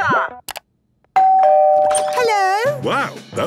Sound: doorbell ringing

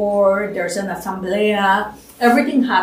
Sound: spanish

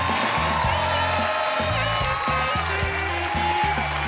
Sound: applause, cheering

